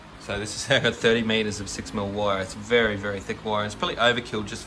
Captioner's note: ha ha